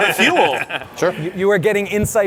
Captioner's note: laughs